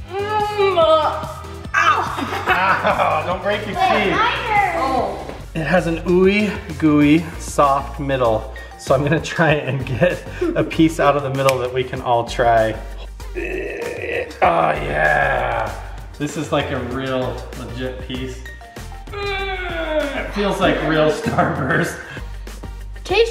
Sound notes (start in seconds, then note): 1.8 laughs; 13.0 groaning; 19.0 groaning